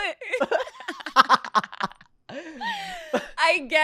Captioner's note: laughs